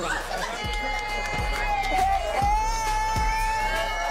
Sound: girls cheering

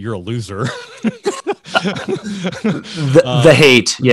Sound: laughing

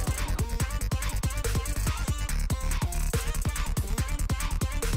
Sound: laughs

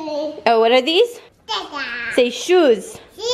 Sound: baby talk

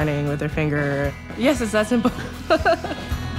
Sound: laughs

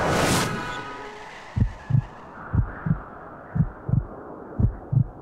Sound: tires screech; heart beating

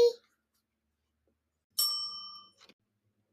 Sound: bell dings

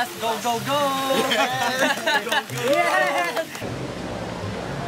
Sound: clap-clap

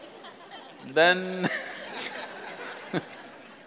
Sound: laughs

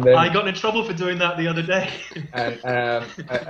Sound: laughs

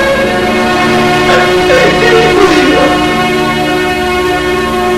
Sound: sobbing

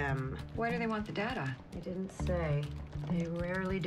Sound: typing

